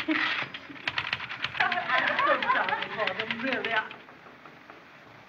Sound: giggling; typing Stops

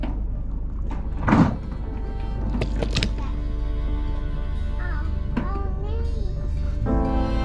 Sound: boat rattling; chattering; upbeat music

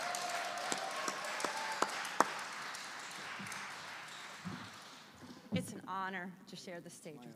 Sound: applause

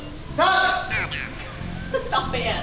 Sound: laughs

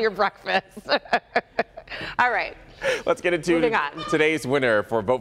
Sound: laughter

